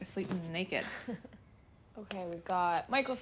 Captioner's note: chuckles